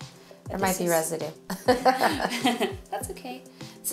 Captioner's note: laughs